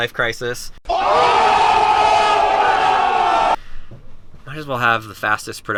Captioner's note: crowd yells and screams